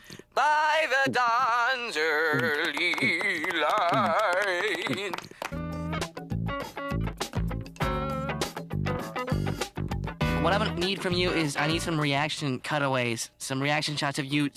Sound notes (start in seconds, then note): 4.3 kids clapping